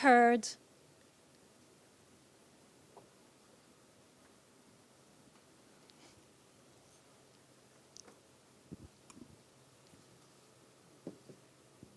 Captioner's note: silent break, 01:21:21 - 01:22:29